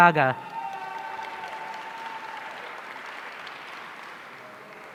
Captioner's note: audience cheering